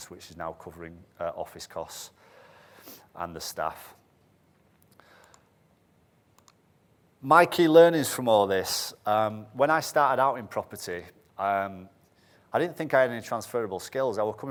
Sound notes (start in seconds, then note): none